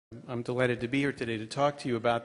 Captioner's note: voiceover